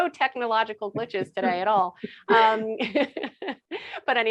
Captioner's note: laughing